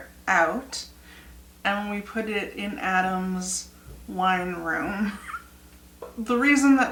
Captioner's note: laugh